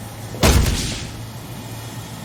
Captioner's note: whack